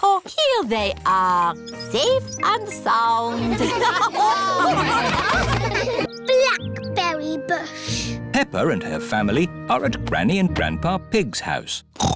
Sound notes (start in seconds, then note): 3.3 laughter; 12.0 snorts